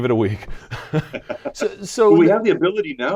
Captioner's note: laughing